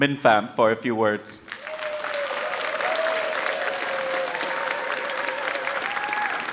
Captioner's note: audience cheering and applauding